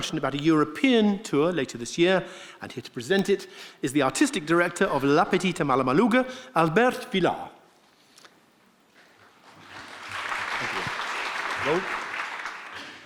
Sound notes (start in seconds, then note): 9.4 audience clapping